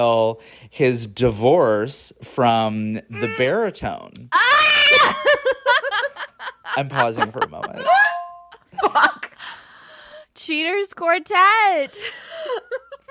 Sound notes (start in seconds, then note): 4.3 scream